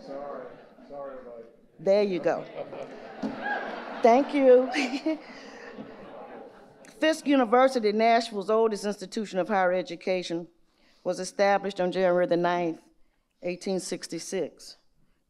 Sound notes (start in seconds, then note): 2.4 audience laughing; 5.5 laughs